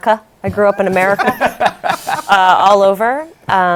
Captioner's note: laughter